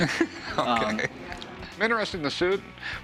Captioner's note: laughs